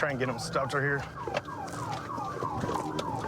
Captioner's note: sirens blaring